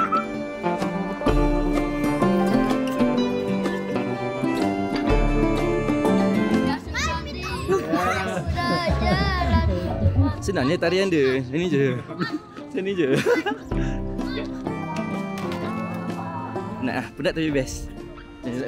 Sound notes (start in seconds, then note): 13.0 laugh